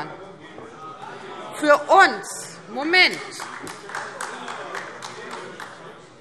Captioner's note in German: Demonstrativer Beifall AfD